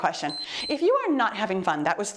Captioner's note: timer beeps